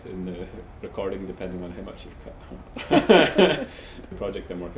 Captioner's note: laughs